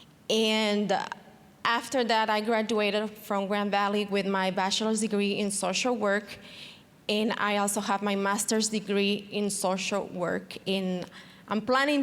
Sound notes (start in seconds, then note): none